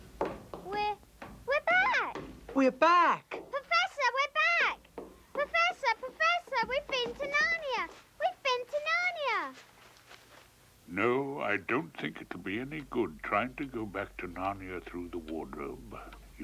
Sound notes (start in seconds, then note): none